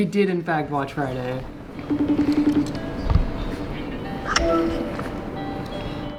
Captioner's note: calming guitar music; FaceTime Ringing